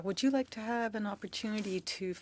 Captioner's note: speaking French